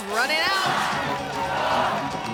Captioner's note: crowd